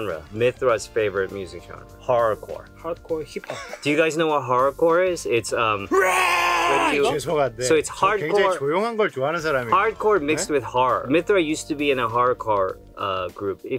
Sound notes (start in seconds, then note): 6.1 shouts; 6.1 speaking in Korean